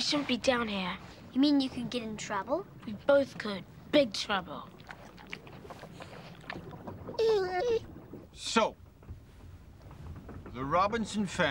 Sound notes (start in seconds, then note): 7.1 dog whines